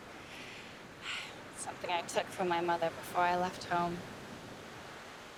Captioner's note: sighs